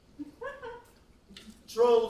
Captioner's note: laughs